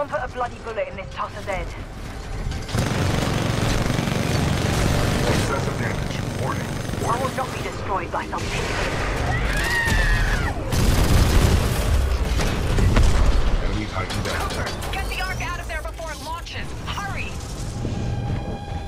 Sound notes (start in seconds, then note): 14.6 radio